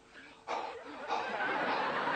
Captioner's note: breathing